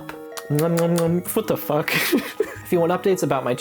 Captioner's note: laughs